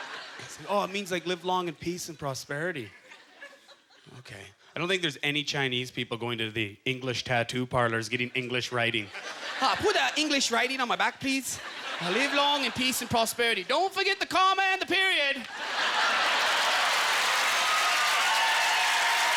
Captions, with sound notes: peace and prosperity." "Okay." I don't think there's any Chinese people going to the English tattoo parlours getting English writing. (In Chinese accent) "Ah, put that English writing on my back, please. Live long and peace and prosperity. Don't forget the comma and the period." (Cheers and applause)